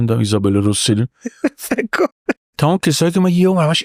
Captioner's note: laughs